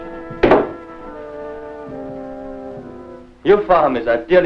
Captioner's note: gun bangs; instrumental music